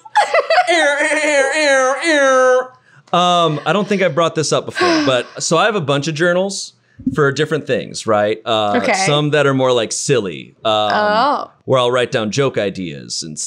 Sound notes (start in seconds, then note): 0.0 laughing; 1.2 imitating an alarm